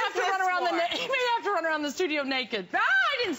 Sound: laughter

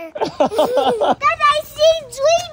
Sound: dad laughing

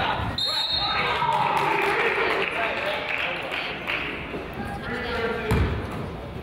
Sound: whistle blows; crowd applauds

